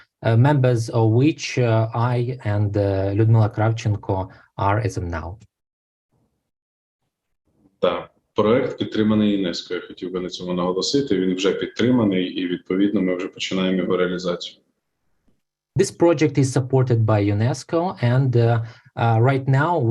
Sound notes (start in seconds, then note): 8.2 foreign Language Spoken